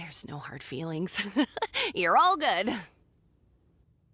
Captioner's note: laughs